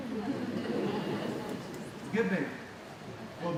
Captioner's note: laughing